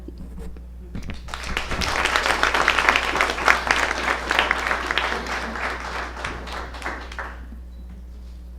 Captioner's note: applause